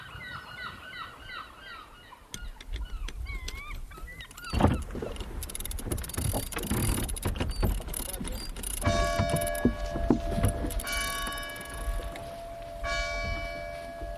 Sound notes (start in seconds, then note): 8.8 bell ringing